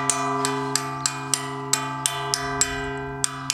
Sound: the bell rings

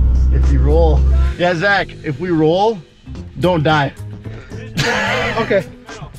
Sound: laughs

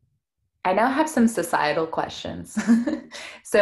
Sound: giggles

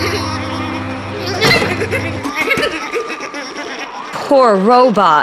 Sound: sobs

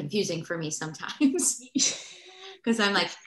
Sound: laughter

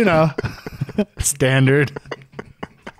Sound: laughing

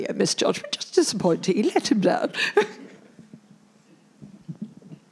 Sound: laughs

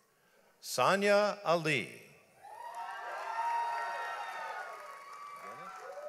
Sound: audience applauds

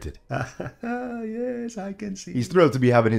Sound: laughs

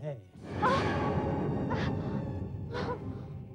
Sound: groans

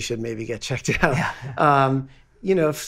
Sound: laughing

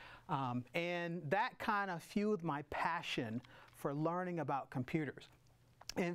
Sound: none

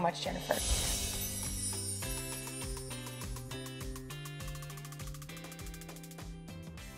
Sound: bright music; sparkles chiming

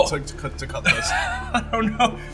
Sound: laughs

